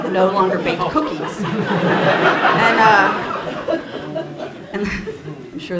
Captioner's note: laughter